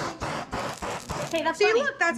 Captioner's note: propane torch hissing intermittently